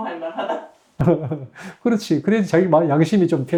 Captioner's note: laughs